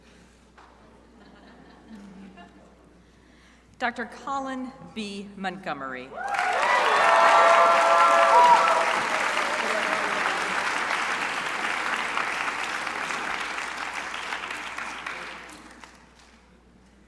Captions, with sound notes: Dr. Collin B Montgomery. (crowd applauding)